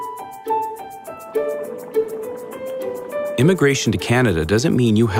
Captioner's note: simmering